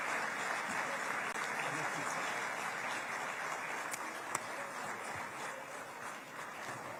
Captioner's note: applause